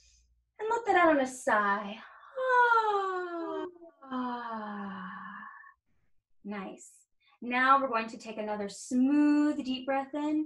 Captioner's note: sigh